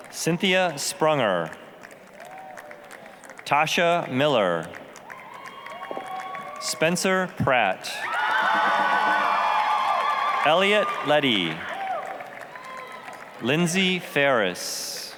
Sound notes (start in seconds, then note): 2.0 applause; 5.1 applause, cheering; 8.0 applause, cheering